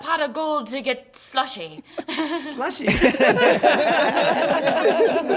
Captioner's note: laughs